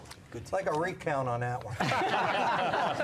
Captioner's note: laughter